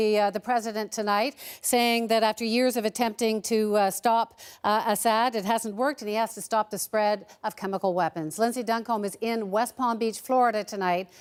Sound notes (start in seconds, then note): none